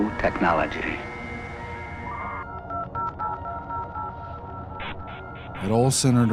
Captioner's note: digital log-on sounds echo eerily